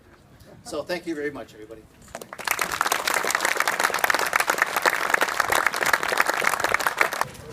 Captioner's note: applause